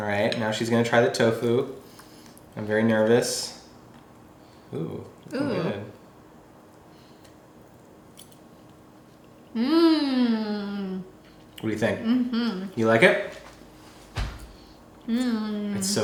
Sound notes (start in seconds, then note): 9.5 hums; 12.0 hums positively; 15.2 hums